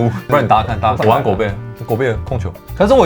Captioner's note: laughs